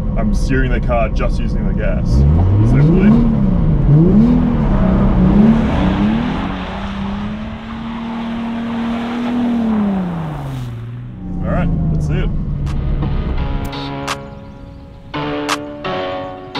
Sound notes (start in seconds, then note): 3.7 car engine revving; 12.6 upbeat rap music